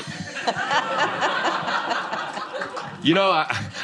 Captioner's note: laughter